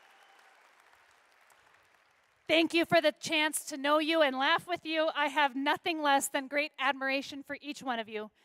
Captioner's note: applause